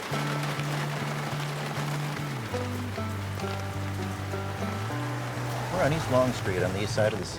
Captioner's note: rain falling on window